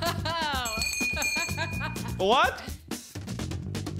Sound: rings bullseye bell

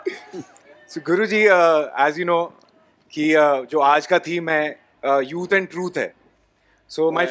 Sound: laughter/Cheering; speaks in Hindi

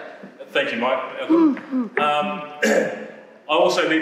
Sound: throat clearing

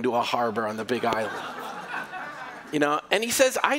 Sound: laughter

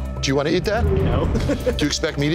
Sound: laughs

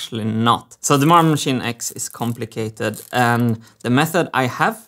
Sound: screwdriver ratcheting

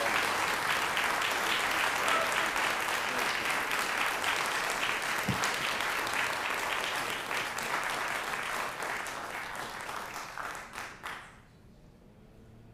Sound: applause

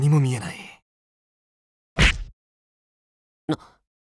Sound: thud

